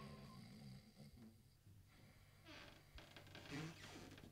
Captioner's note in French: ronflements